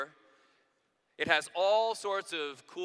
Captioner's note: none